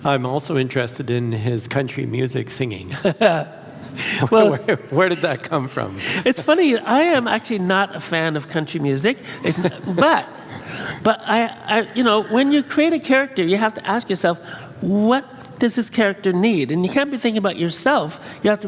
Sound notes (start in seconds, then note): 2.9 laughs